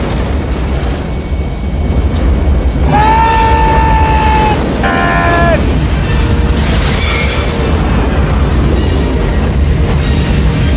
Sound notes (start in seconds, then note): 2.8 both scream; 6.5 billboard squeaks